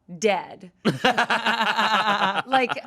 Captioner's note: everyone laughs